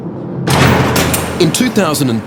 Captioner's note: gate slamming